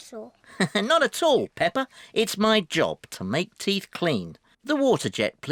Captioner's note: laughs